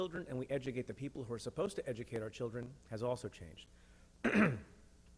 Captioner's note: clears throat